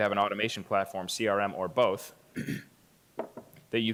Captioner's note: clears throat